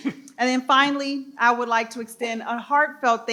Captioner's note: participant clears throat